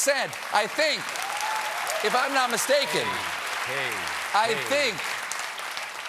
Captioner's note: applause